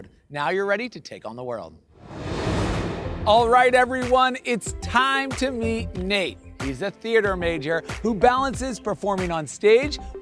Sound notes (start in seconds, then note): 1.9 air whooshing